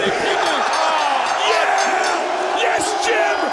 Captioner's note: bell rings